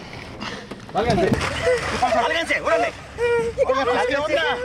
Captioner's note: crying